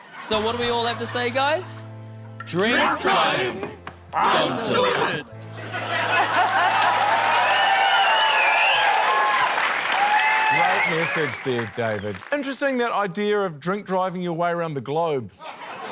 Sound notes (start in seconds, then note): 5.6 laughter, cheering, applause; 15.4 laughter